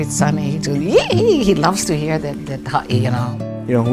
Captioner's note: squeals